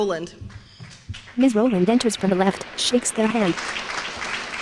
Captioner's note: applause